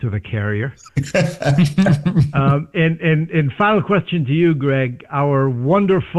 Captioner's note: laughter